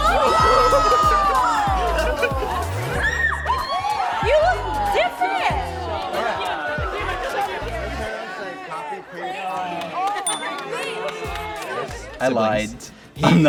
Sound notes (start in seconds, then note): 0.0 crowd is shocked; 2.8 screams